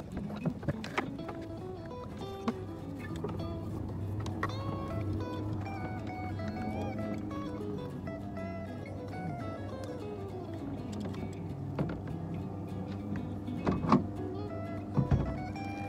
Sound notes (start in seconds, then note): 5.4 airplane buzzing overhead; 14.9 dull thud as rudder is removed